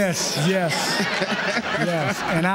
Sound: laughter

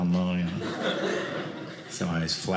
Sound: audience laughing

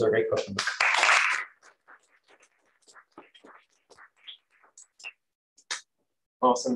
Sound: applause

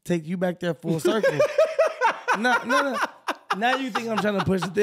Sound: laughing

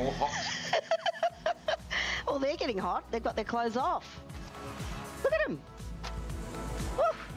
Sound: laughs

